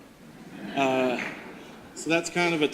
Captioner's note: audience laughter